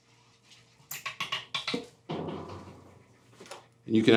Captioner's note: metal rattling